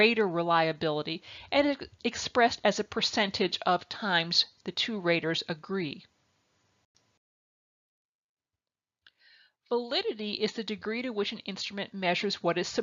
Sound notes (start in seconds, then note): 6.6 silence